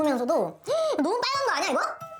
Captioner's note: gasp